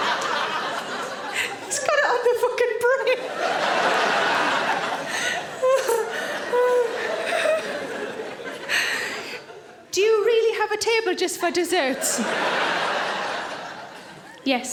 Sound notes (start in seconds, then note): 3.1 audience laughing; 4.8 Sarah laughs